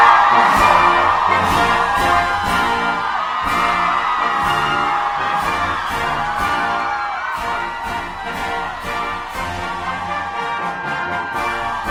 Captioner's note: applause and Music